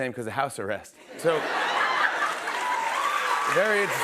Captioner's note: laughter